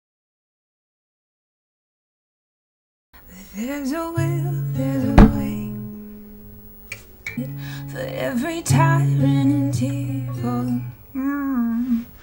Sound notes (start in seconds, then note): 5.2 loud crash